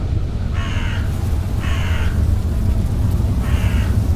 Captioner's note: insects buzzing